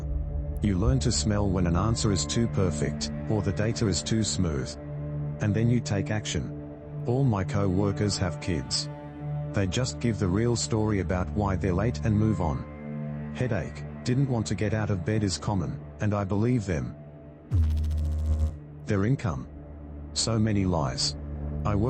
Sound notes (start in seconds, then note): 17.5 electrical noise